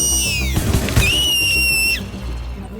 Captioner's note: shrieking sound; gunfire